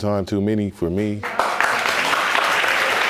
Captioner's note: audience applauds